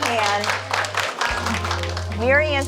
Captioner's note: attendees applauding